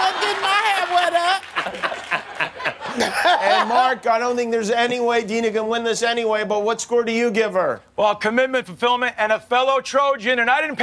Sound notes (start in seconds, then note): 2.1 laughs